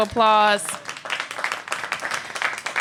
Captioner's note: applause